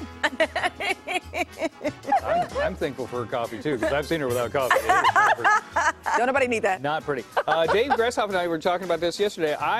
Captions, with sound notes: JULISSA ORTIZ. ALL OF WHAT YOU SAID, FAMILY, GOOD HEALTH, MY FRIENDS, BUT ON A DAILY BASIS, COFFEE [LAUGHTER] JUST KEEPING IT REAL.